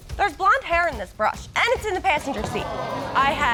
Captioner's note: audience gasping